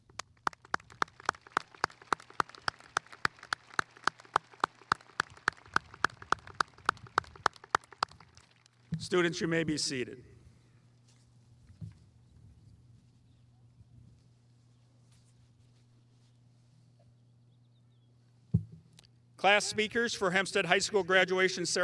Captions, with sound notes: (audience applauding) Students, you may be seated. Class speakers for Hempstead High School graduation